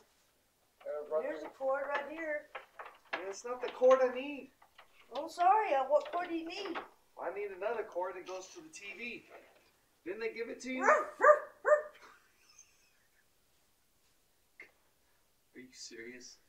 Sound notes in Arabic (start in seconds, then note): 10.7 نباح; 11.8 يضحك